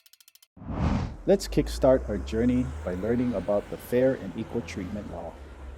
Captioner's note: compass spinning; whoosh; trolley passes